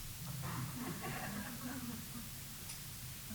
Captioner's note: laughter